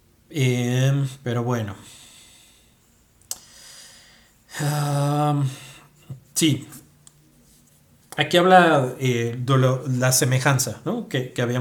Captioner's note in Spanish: suspiro